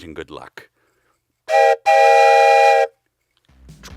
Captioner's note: train whistle noise